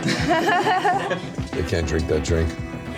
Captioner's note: laughing